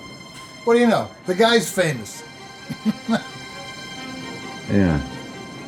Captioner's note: laughs